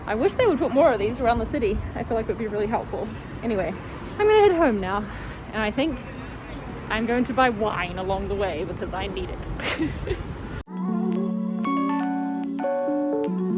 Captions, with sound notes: I wish they would put more of these around the city. I feel like it'd be really helpful. Anyway, I'm gonna head home now. And I think I'm going to buy wine along the way because I need it. (laughs softly) (gentle music)